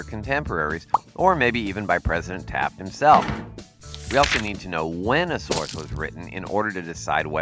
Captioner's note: Pencil hits Taft and page turns